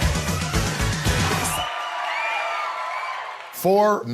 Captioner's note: audience applauding